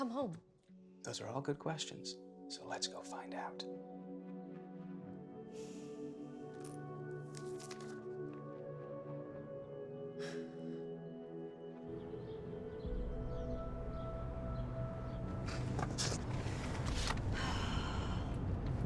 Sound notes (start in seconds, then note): 4.6 slow soft music; 11.6 birds chirping; 17.3 Sharon sighs